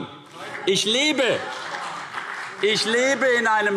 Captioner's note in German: Beifall CDU und BÜNDNIS 90/DIE GRÜNEN - Zuruf DIE LINKE